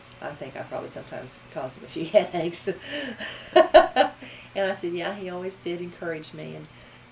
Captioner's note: laughs